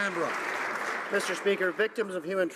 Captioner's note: some Applause